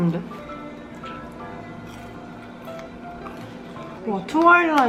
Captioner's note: nom